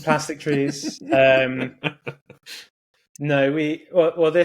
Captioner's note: laughing